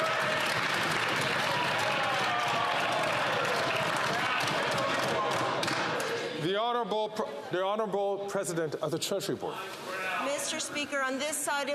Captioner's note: some Applause